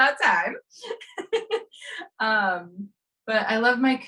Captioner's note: laughs